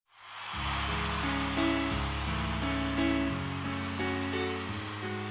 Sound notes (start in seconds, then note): 0.1 audience cheering; 0.6 gentle piano intro music